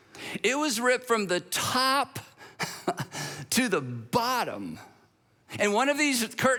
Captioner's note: chuckles